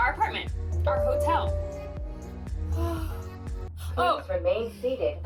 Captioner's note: Skyliner chimes